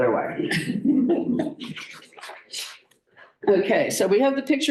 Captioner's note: laughter